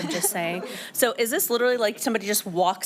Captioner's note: laughter